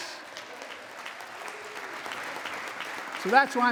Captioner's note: applause